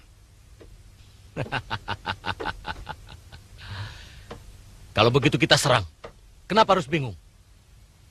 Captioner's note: laughs